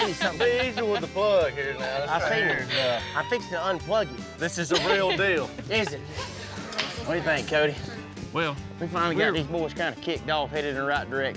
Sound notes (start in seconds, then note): 1.6 laughter